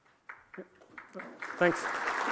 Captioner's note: clapping